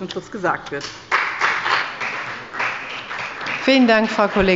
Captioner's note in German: Beifall bei dem BÜNDNIS 90/DIE GRÜNEN und der CDU